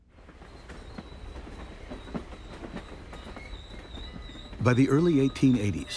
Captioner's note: train clacking on tracks